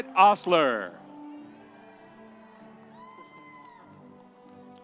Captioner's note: audience cheering